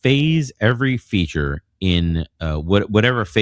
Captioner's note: uh